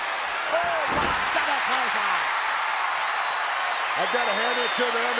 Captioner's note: audience cheers